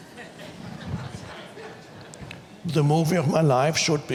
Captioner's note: audience laughs